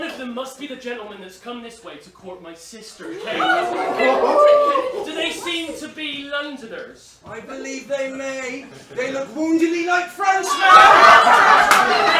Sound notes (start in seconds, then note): 3.0 excited chatter; 10.5 laughter